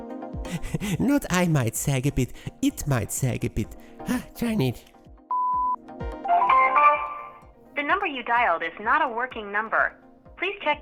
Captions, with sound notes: Haha! No, not I might sag a bit. It might sag a bit. Ah, darnit! [PHONE NOISE] The number you dialed is not a working number. Please check